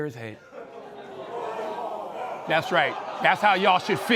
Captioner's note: crowd